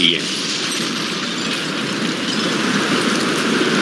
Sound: wind gushing

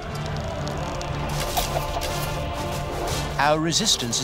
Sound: arrows whizzing

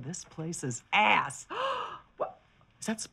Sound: gasps

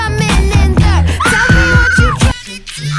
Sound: Velma screams

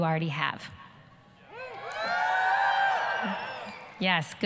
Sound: students yelling, cheering

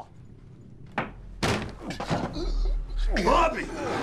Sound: thud

